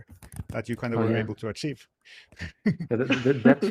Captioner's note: laughs